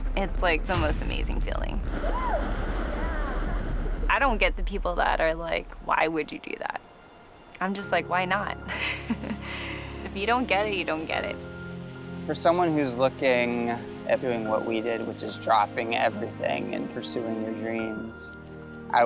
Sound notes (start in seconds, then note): 8.7 chuckling